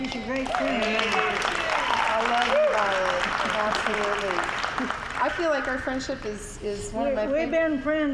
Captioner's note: applause